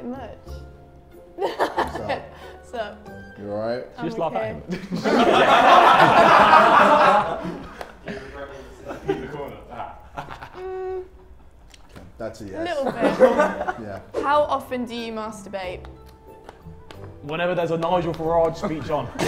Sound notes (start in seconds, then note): 1.4 laughs; 4.6 Sidemen laugh